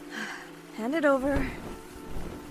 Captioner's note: sighs